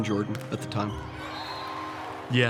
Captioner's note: cheering